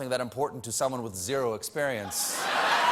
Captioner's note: applause; laughter